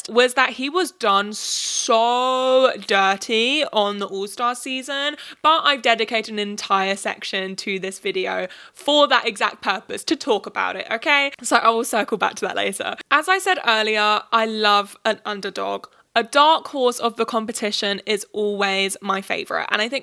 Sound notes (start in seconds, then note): none